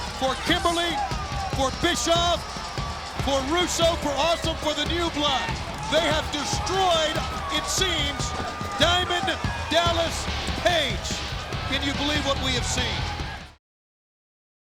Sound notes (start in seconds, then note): 5.3 crowd clamoring; 7.8 crowd clamoring; 10.4 crowd clamoring